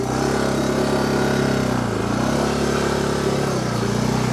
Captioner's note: engine revs